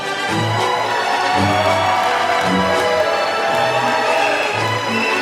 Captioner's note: applause